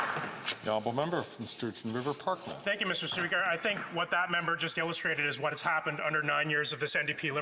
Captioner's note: some Applause